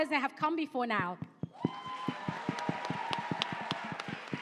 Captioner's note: cheering and applause